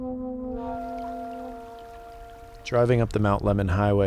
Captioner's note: water flowing